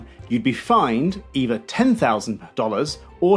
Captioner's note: none